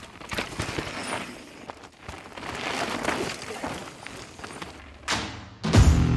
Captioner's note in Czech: zvuk kola; křupání štěrku; rocková hudba